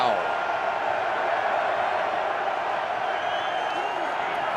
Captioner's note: crowd clamoring